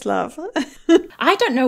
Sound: laughing

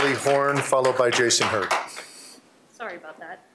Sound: applause

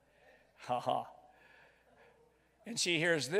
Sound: chuckles

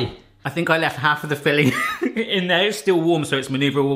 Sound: laughs

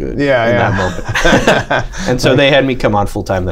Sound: laughter

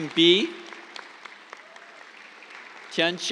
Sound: applause

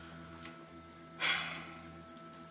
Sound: sighs

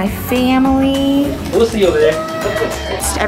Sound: party horns tooting

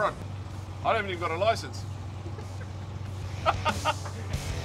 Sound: chuckles

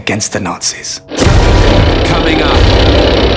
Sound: dramatic music; tank rumbling

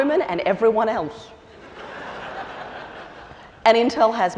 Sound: laughter

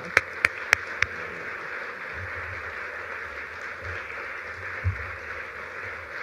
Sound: applause

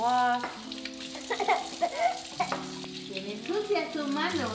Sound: crying

